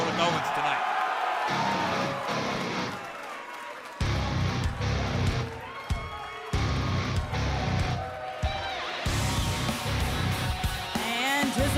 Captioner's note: cheers & applause